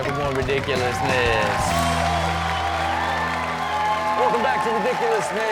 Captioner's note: audience cheers